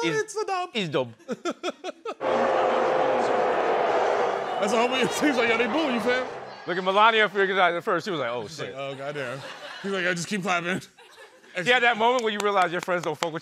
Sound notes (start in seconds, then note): 1.2 laughter; 2.2 jeering